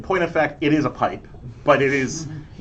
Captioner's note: laughter